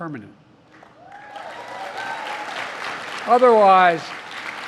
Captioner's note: applause